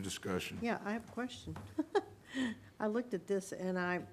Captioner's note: laughs